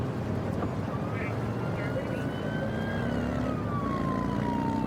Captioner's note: siren blaring